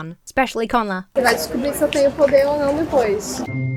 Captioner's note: speaking Portuguese; lighthearted music